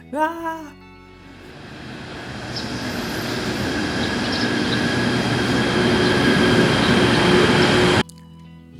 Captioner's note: train is coming